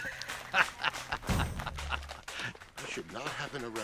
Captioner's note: laughing